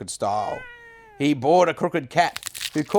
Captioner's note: cat meows